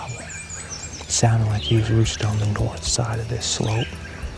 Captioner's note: whispering